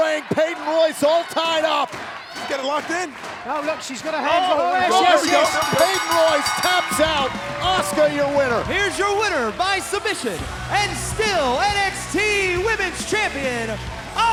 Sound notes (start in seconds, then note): 4.9 bell rings